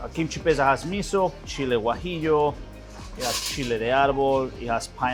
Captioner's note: speaking in foreign language